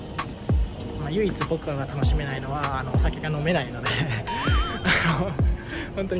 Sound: laughs

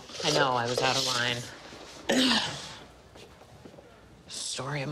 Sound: clears throat

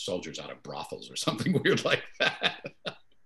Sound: laughing

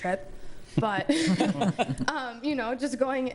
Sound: laughter

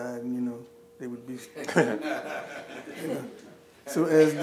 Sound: laughing

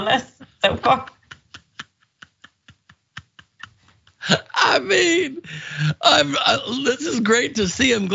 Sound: laugh

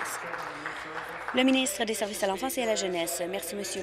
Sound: applause

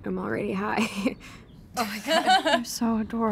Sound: chuckles; laughs

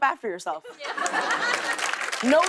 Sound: laughter and applause

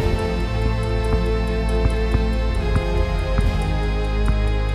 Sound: legs tapping

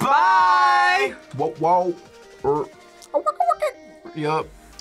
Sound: imitates record scratching

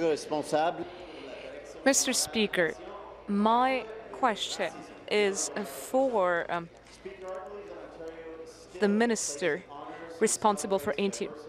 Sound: speaking in French

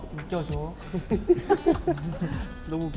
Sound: laughing hard

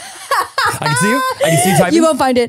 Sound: laughs

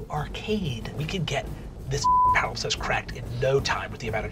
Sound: beep

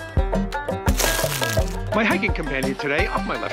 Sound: upbeat music; step crunches

